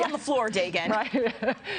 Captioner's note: laughter